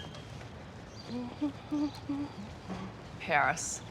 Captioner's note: hums